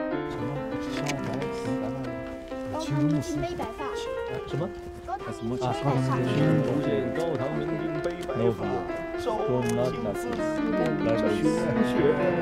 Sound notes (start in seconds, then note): 0.1 reciting ancient poetry